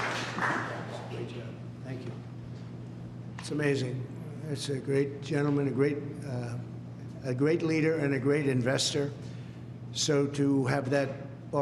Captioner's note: clapping